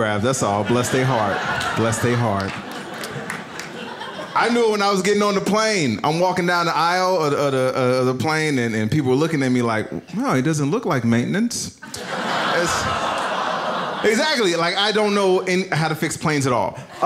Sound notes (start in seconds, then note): 11.8 audience laughs; 12.2 audience groans